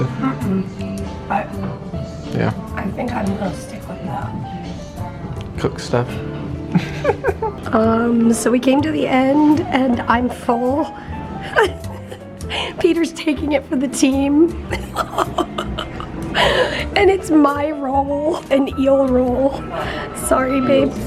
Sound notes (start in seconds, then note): 6.7 chuckling; 11.4 chuckling; 14.6 laughing